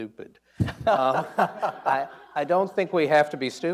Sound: people laughing

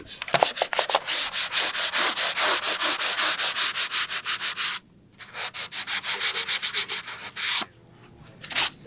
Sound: rubbing

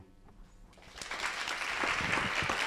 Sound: applause

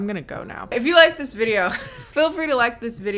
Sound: laughing

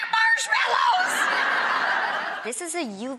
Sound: audience laughing

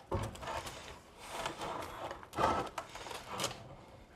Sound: soft scraping noises

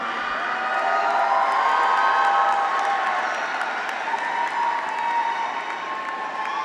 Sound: graduates cheer; audience applauds

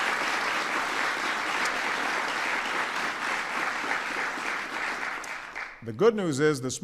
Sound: applause

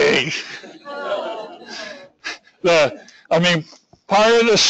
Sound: audience groans and laughs

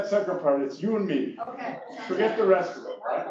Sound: laugh

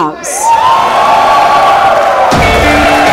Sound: all cheering clapping

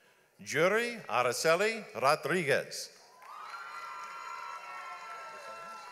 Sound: audience applauds

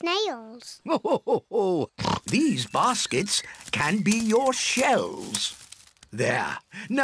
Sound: laughs

